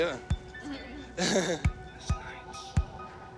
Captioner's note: laughs